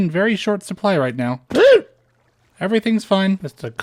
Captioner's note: gasp